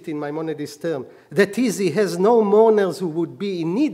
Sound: speaking hebrew

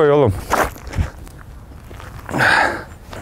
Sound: grunting

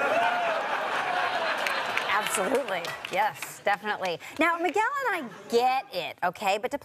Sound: audience laughter

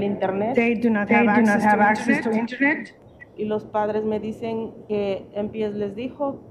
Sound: feedback

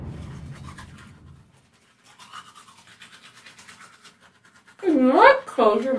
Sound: teeth brushing

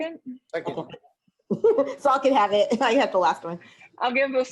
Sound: laughs

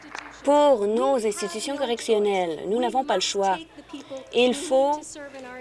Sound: applause

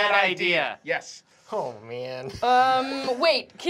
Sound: laughing

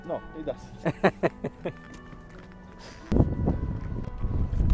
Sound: laughs

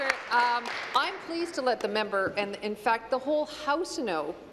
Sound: applause

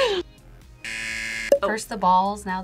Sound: buzzer rings

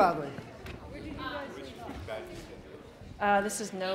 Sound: background chatter

